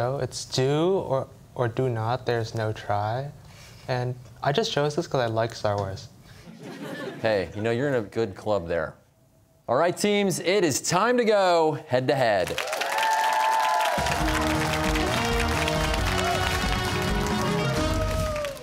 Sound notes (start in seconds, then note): 6.4 laughter; 12.5 cheers and applause